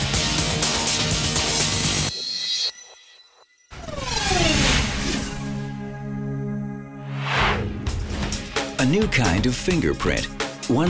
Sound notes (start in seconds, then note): 3.9 whirring; 5.6 mellow music; 7.0 whooshes